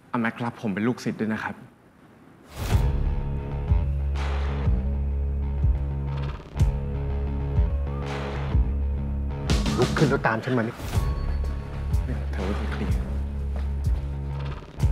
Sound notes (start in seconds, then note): none